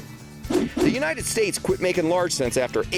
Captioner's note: swooshing